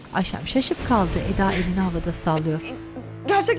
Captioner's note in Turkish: Gülme sesi